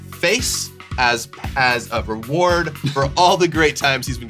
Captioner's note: chuckles